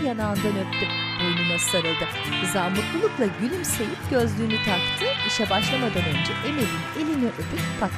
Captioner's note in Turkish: Fonda çığlık ve alkış sesleri